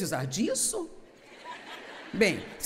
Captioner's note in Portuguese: audiência ri